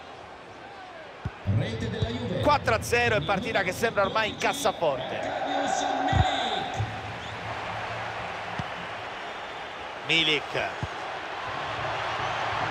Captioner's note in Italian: Applauso